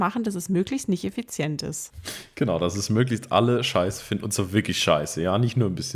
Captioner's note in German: schnauben